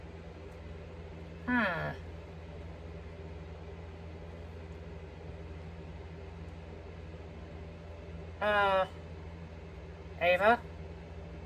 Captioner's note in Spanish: Caprice gime de alivio